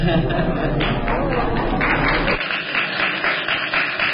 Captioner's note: laughter; applause